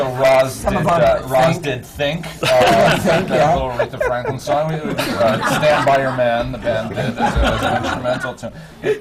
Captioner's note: laughter; laughter